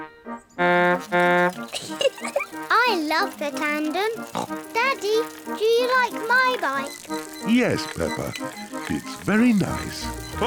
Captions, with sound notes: (TOOTS HORN AND GIGGLES) I love the tandem. (SNORTS) Daddy, do you like my bike? Yes, Peppa. It's very nice.